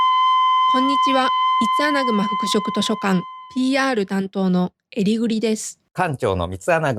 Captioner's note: eringing